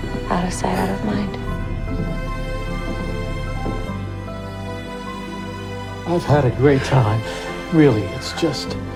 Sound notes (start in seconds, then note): 0.5 voiceover; 6.3 voiceover